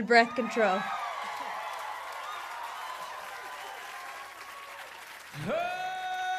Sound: cheering and applause

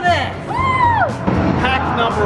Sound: cheering

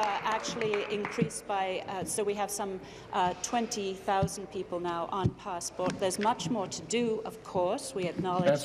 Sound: applause

